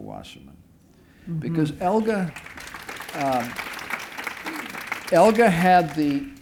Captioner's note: applause